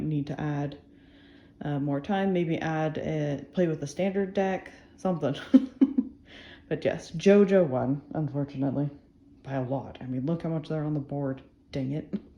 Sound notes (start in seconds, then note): 5.4 laughs